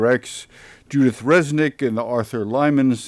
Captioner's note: none